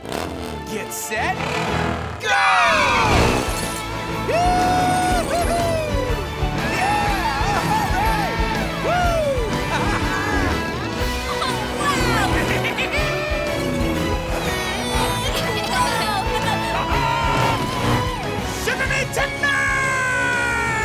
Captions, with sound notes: Get set... go! Woo hoo hoo! Yeah, all right! Woo, ha ha! Oh wow! [giggling] [cheering] Shiver me timbers!